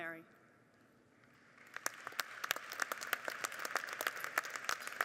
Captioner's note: audience applauding